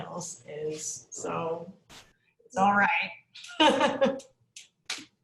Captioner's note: laughs